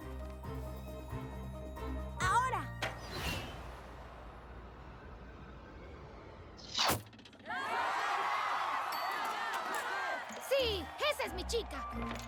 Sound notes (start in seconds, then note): 7.4 cheers